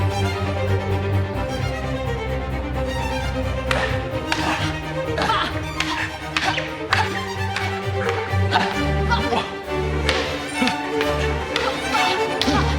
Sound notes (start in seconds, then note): 3.8 sword clacks; 5.4 yelling